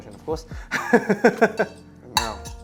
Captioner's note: laughs